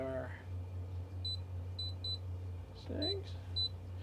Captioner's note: beep